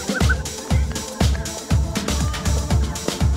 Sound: kid laughing

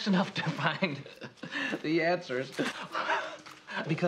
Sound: kind of chuckling; laughs

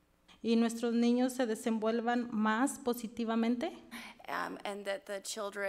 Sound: speaks foreign language

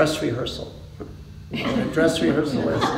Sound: laughter

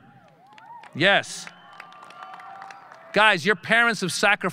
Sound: audience cheering

